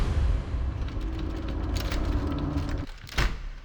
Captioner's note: door rattling